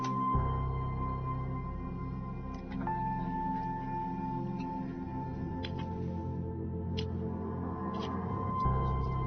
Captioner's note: click